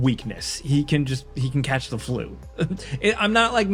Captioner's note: laughing